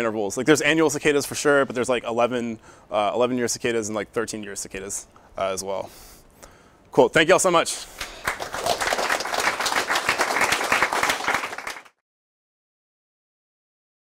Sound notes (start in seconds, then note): 7.9 applause